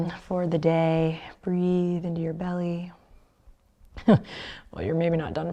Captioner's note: chuckles